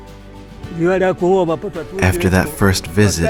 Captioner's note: speaking in foreign language